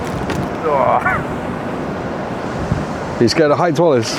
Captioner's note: groans